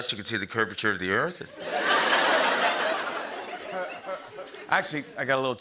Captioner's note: laughter